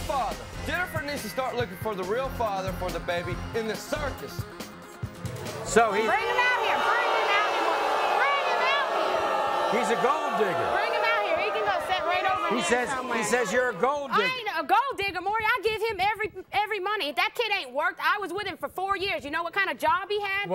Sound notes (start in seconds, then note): 7.7 audience boos